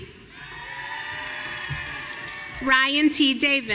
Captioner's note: audience cheering